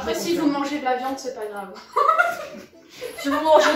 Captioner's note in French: Rire